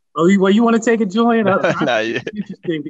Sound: laughs

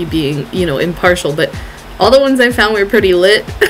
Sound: laughs

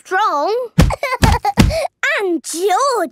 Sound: banging

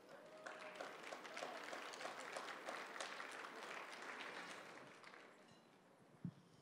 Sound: applause

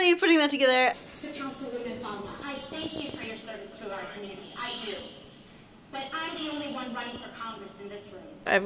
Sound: audio from Knock Down The House on Netflix is playing

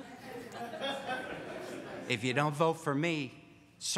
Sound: audience laughs

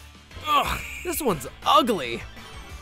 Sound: groans

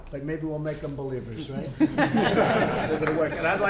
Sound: laughter

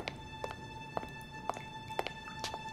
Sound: dripping

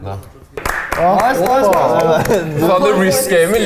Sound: light applause

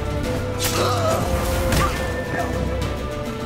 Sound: scream

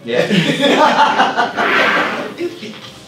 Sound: laughter

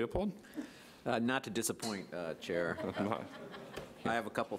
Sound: audience laughs

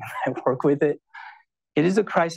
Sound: chuckles

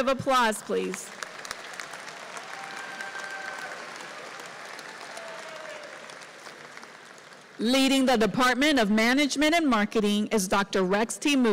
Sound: applause

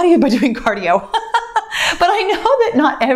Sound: laughs

